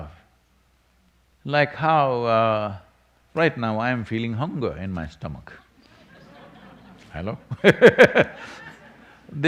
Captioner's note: laughs